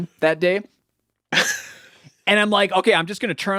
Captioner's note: laughing